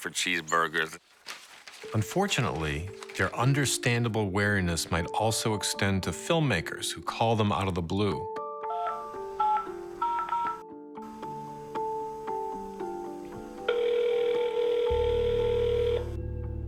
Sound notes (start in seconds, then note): 10.0 beep tones; 13.3 phone rings